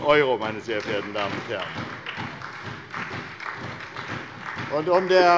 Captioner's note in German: Beifall bei der SPD